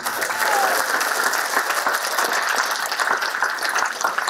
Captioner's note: applause